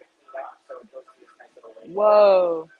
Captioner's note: mumbles